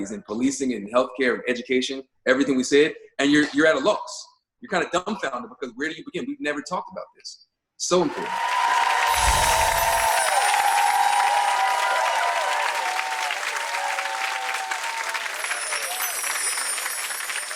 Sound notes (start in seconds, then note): 8.4 applause; 8.7 chime; 14.1 chime